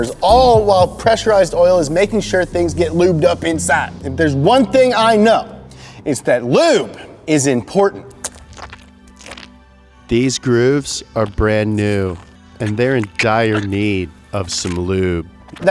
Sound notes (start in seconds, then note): 8.0 wet squishy sound